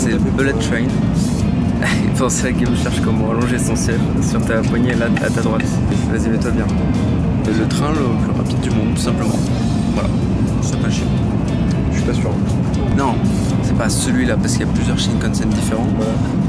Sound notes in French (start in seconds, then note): 1.8 rire